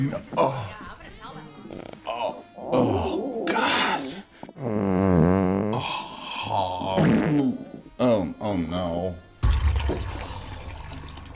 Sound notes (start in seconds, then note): 1.7 fart sound; 4.5 fart sound